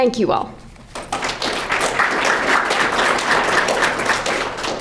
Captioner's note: crowd clapping